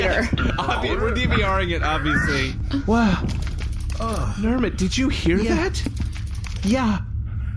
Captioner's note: laughing